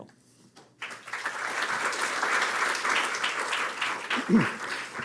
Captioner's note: applause